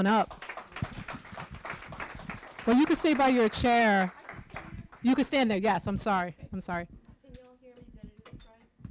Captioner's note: applause